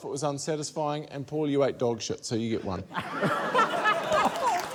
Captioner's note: laughter